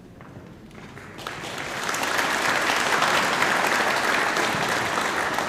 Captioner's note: audience applauding